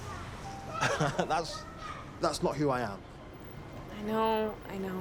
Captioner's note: laughs